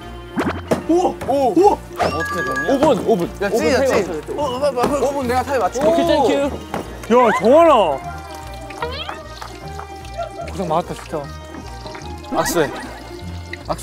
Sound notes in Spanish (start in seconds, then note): 4.0 Chisporrotear y lucir sabroso